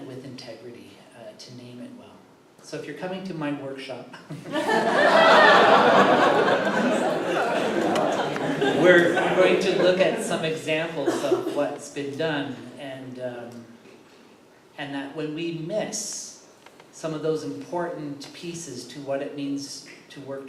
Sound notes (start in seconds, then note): 4.3 laughter